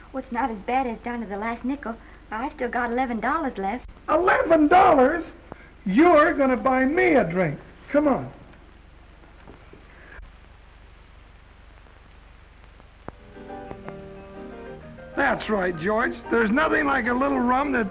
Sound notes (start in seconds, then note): none